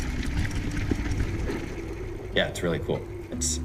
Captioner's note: engine rumbling